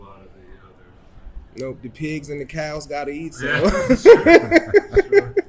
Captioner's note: laughing